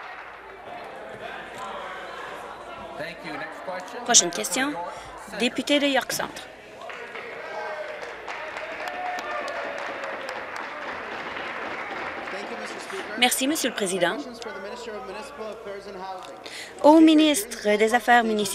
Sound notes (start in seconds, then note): 0.0 applause; 11.4 applause